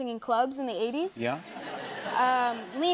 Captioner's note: laughter